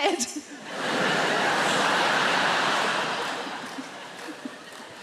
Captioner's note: audience laughing